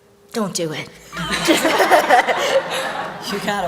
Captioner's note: laughter